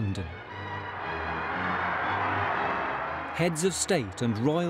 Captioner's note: bright music; crowd cheering